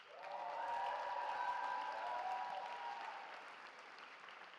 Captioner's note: cheering